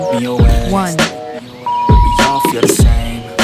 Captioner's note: beep; upbeat music